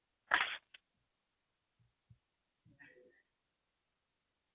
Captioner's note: silence